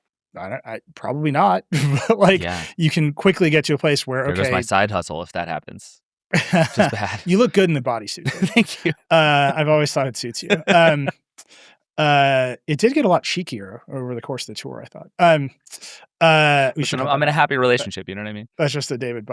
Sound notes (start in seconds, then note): 6.3 chuckles; 9.7 laughs